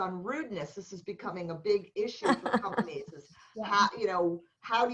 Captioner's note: laughter